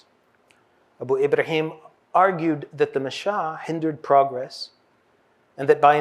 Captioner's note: hebrew